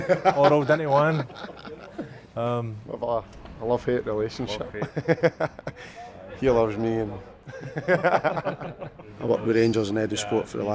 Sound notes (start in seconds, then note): 0.0 laughs loudly; 5.8 chuckles